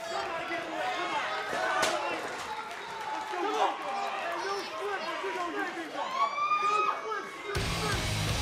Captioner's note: crowd cheering